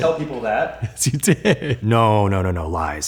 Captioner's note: laughs